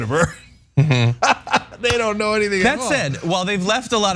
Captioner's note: laugh